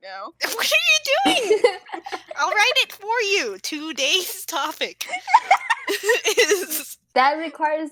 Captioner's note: laughing